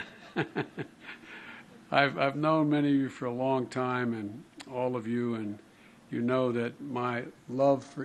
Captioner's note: laughter